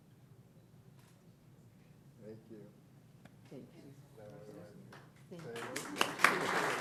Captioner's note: silence